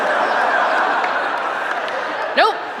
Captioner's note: laughter